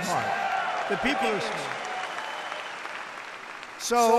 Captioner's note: applause